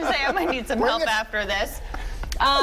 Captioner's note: laughter